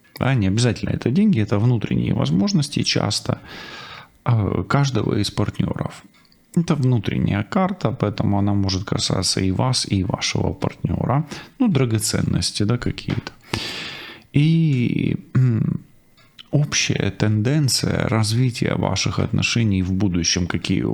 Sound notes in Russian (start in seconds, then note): 13.5 фыркает; 14.5 откашливается